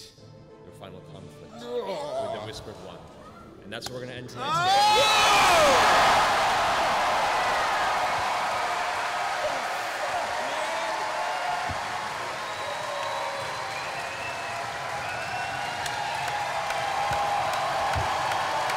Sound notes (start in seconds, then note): 4.4 extended cheering